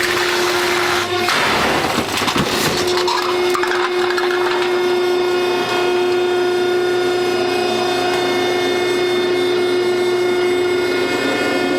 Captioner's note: sound of the hydraulic press returning to the up position